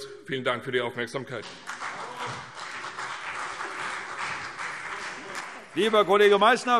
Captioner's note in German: Beifall CDU